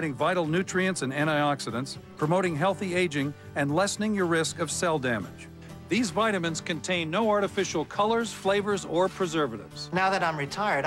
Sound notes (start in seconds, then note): none